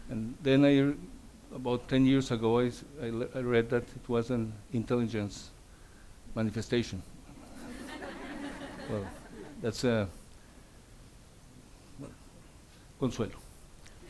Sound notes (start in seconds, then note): 7.3 audience laughs